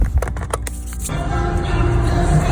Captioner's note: plastic clatters; hand rasping; upbeat music